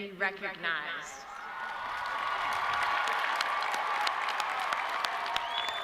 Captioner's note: audience cheering